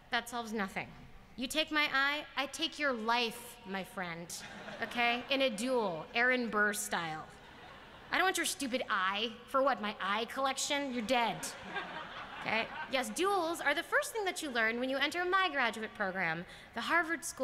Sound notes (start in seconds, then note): 4.4 laughter; 11.3 laughter